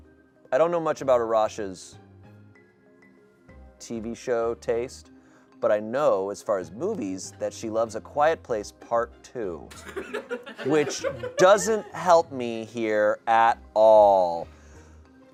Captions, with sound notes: I don't know much about Arasha's TV show taste, but I know as far as movies, that she loves "A Quiet Place Part II." (audience laughing) Which doesn't help me here at all.